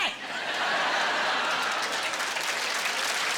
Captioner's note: laughing and applauding